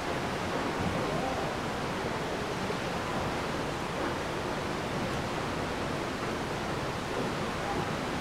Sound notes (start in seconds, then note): 3.4 water rushing